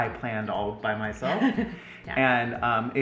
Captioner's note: chuckles